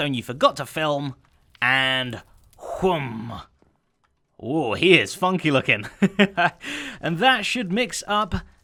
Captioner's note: chuckles